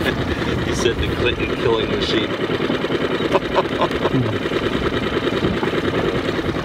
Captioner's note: laughs